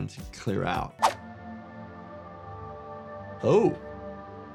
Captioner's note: screen whooshing